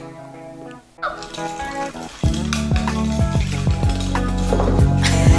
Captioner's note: serene music; toy rattling; giggles